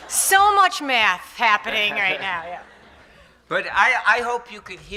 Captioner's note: laughs